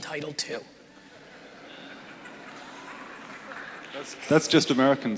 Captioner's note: crowd laughing and applauding